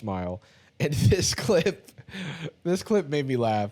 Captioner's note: laughs